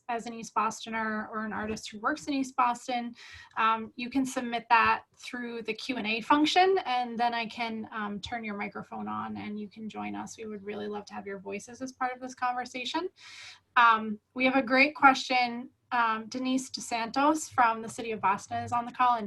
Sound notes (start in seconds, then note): none